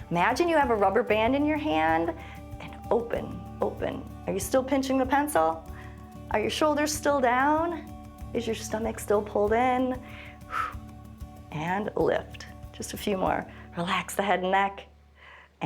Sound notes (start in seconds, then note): 10.1 short exhale